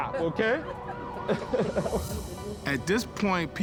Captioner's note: laughter